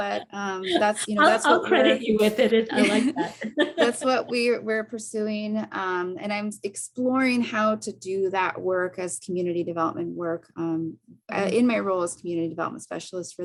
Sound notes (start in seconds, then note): 0.6 chuckles; 3.7 laughing